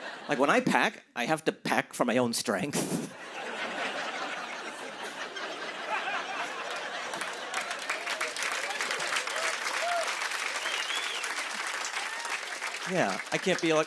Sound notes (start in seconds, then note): 2.9 laughter and applause